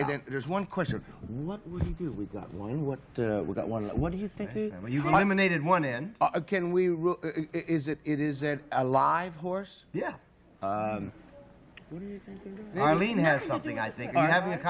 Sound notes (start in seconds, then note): 5.3 chatter